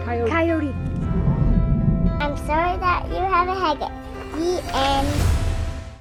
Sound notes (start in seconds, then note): 0.0 gentle music; 5.1 air whooshing